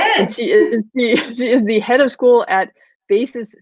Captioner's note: chuckles